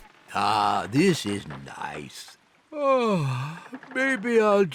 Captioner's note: yawns